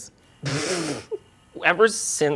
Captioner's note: sputters